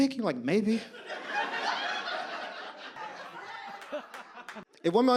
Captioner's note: audience laughs